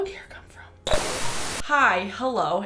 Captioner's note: static